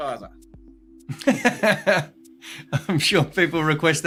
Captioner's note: laughing